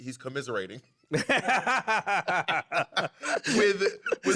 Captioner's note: laughter